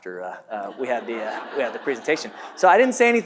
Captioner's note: audience laughs